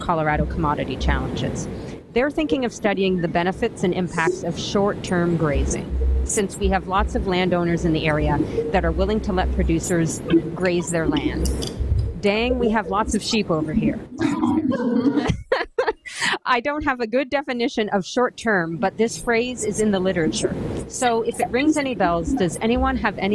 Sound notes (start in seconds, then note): 14.2 audience laughs